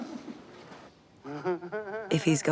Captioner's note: continues chuckling